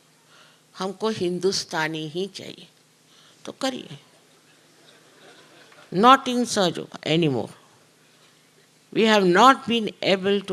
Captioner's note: talks in Hindi briefly